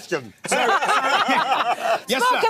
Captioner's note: laughing